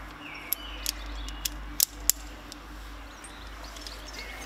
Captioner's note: birds chirping; metallic clicking